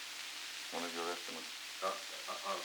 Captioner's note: Murrow, mumbling